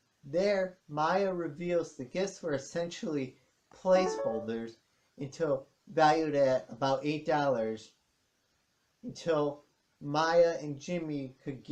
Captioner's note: ping of Kindle